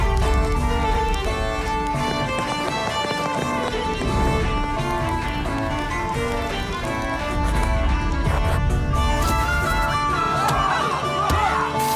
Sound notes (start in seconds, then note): 3.9 running footsteps; 9.9 medieval music playing; 11.7 punches thudding